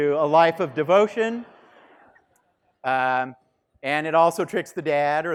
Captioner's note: students laughing